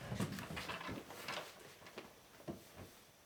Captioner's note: none